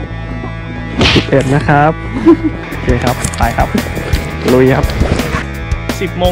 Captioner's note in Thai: ขำ